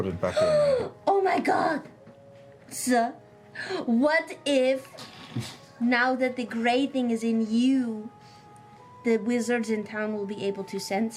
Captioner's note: gasping